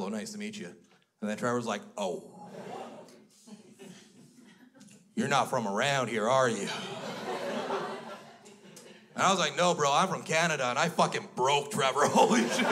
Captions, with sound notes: Nice to meet you." And then Trevor was like, "Oh, you're not from around here, are you?" (crowd laughs) And I was like, "No, bro. I'm from Canada." And I fucking broke Trevor! Holy shit!